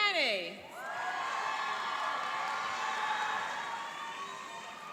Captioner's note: cheering and applauding